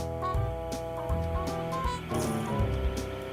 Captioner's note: heater humming